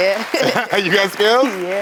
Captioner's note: both laughing